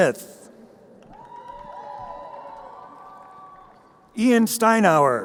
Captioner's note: crowd cheering